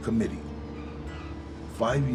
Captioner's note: brakes squealing